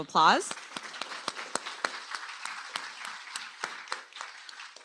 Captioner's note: applause